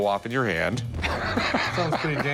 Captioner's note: laughs